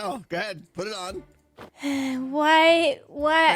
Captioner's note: sighs